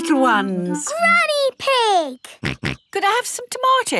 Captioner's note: snorts